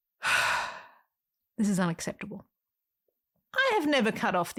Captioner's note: sigh